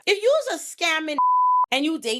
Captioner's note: beep